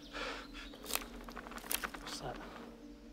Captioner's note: man breathes heavily; clattering